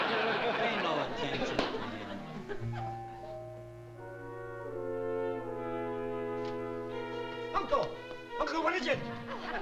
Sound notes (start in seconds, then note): 2.8 door bell; 4.5 melancholic music